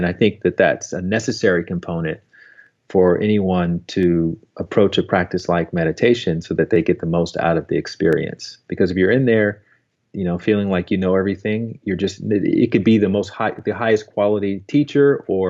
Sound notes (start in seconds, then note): none